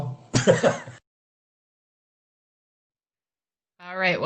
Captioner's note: laughs